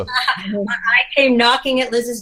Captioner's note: laughing